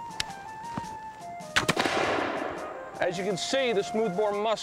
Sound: gunshot

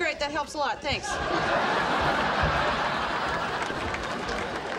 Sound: audience laughing

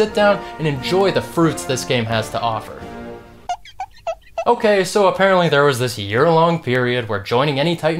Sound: squeak

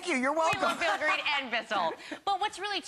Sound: laughter

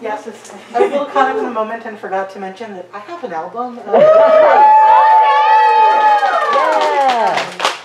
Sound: audience cheers and applause

